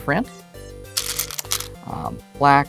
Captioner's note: stones rattling